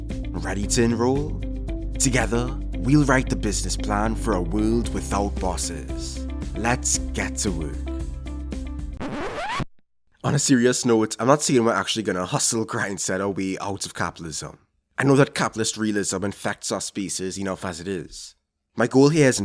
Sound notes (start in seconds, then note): 9.0 record Scratch